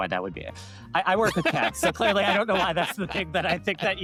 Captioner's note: laughs